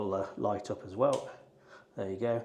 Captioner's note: switch clicking